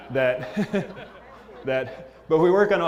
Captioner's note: laugh